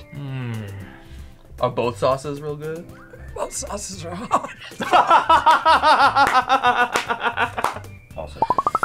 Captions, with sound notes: - Mmm. - Are both sauces real good? - Both sauces are hot. (both laugh)